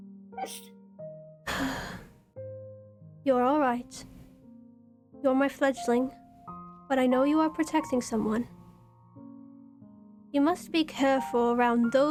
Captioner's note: sighs